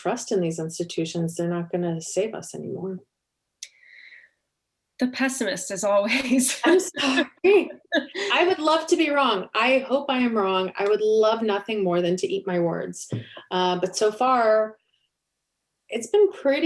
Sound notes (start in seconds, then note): 5.5 chuckle; 6.2 laughter